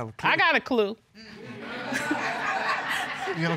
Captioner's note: laughter